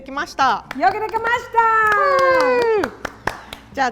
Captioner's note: both cheer